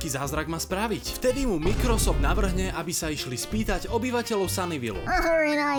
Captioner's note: sob in Slovak